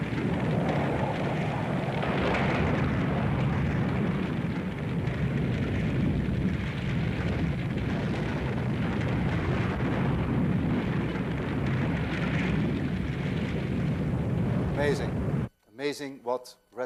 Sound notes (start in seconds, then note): 2.7 loud crashing; 5.2 rumbling as wind blows; 10.1 rumbling continues